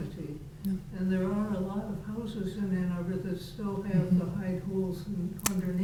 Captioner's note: faintly speaking